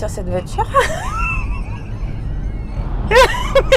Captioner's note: giggles